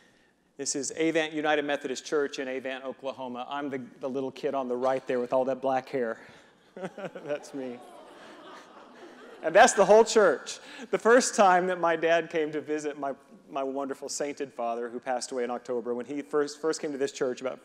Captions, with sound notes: This is Avant United Methodist Church in Avant, Oklahoma. I'm the little kid on the right there with all that black hair. (reverend laughing) That's me. And that's the whole church. The first time my father came to visit— my wonderful, sainted father who passed away in October— when he first came to this church